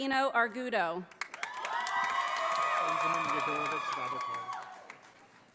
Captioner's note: audience applauding